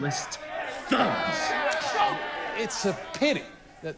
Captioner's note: group heckling